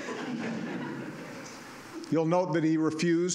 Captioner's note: laughter